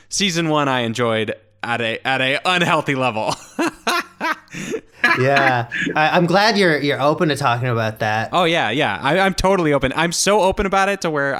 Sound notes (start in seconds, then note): 3.3 laughing